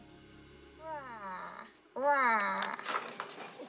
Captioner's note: growls gently